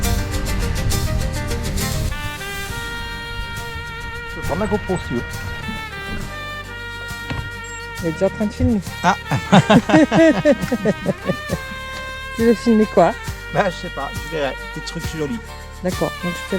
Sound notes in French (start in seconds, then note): 11.6 rires